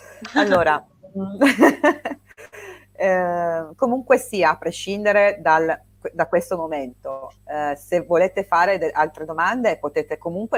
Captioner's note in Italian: risate